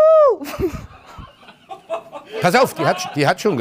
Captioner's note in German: Lachen